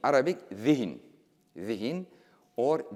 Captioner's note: speaking in foreign language